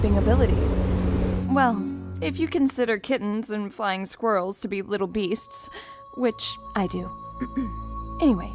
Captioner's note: clears throat